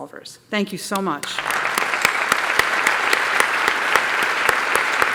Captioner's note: applause